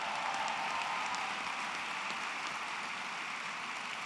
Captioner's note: applause